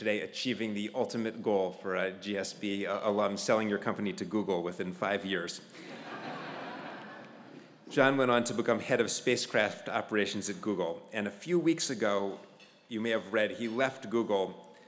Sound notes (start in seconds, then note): 5.6 laugh